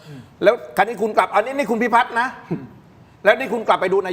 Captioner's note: clears throat